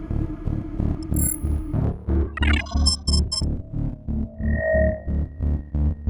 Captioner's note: image squealing and buzzing